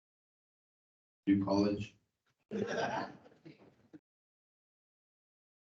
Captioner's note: crowd laughing